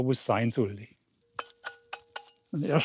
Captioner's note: metallic noise